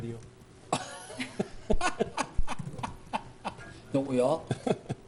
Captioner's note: man laughing